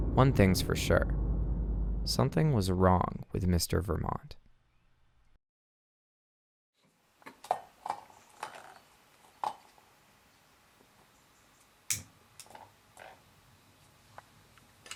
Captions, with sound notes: One thing's for sure, something was wrong with Mr. Vermont. (objects clattering) (lighter clicks)